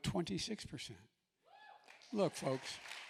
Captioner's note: applause